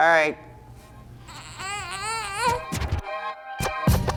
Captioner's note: disgruntled baby sound; ♬ hip-hop ♬